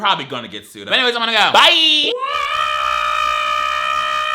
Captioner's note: screams